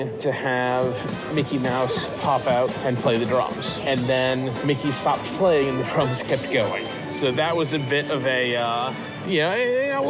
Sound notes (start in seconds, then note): none